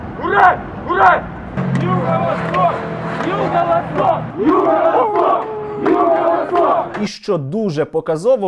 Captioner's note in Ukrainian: починає вити пес